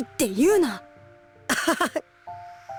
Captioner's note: laugh